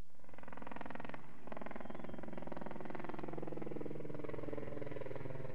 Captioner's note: helicopter blades whirring